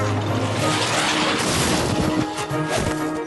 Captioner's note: whoosh